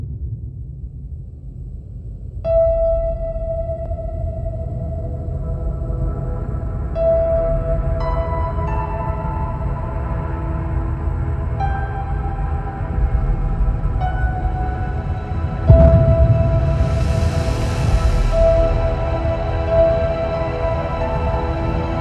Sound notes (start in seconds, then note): 15.6 бам